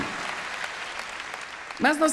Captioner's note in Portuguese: plateia aplaudindo